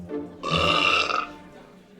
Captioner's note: belches